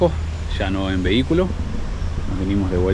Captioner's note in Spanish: a motor